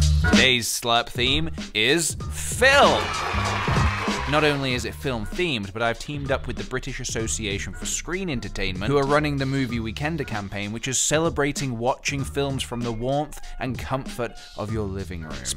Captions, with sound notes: Today's slurp theme is... *cheering* Not only is it film themed, but I've teamed up with the British Association for Screen Entertainment Who are running the Movie Weekender campaign which is celebrating watching films from the warmth and comfort of your living room.